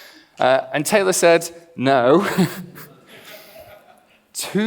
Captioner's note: laughs